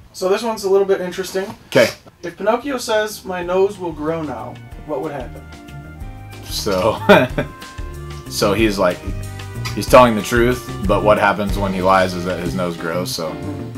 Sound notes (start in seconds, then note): 5.6 soft elevator music; 6.8 laughter